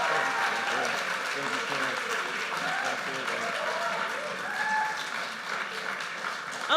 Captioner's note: speaking faintly